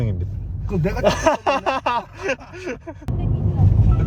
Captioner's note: laughs